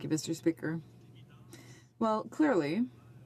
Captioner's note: speaking french